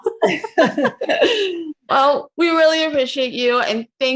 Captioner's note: all laughing